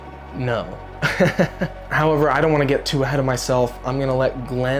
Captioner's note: laughing